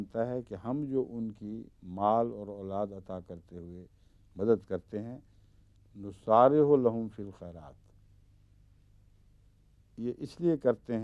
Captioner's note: Arabic